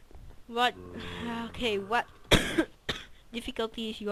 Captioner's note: cough